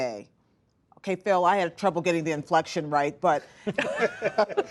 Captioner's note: laughter